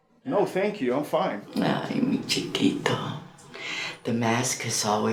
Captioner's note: Spanish